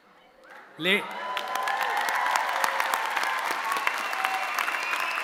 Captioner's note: audience cheering